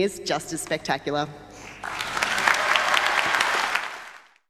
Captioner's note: applause